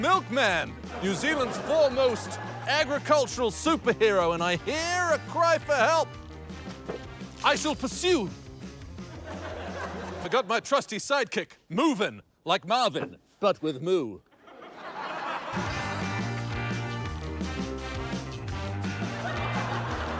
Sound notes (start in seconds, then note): 8.1 milk splashes; 15.5 surfer rock music